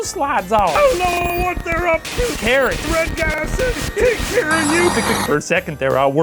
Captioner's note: static buzzing and distant yelling